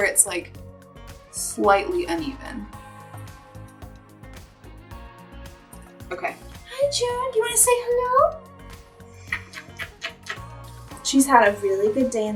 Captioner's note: kisses